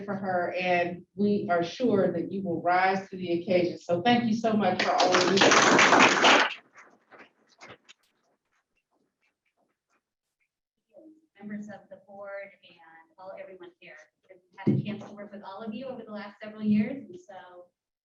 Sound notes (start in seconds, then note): 10.3 applause